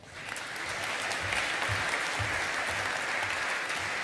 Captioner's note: audience applauding